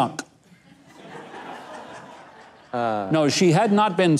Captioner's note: audience laughs